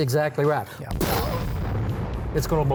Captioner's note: exploding sound